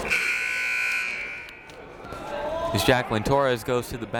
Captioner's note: siren buzzing